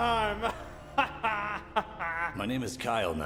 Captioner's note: laughing